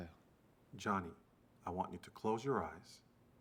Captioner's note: in English